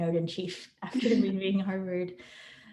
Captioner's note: laughs